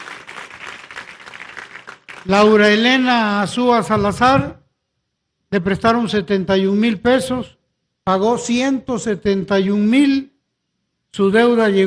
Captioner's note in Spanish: aplausos